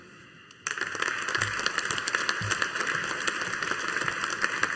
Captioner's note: audience applauding